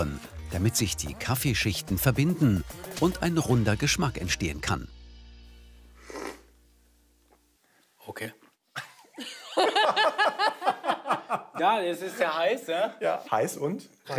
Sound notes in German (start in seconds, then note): 6.0 Schlürfen; 8.7 Sie lachen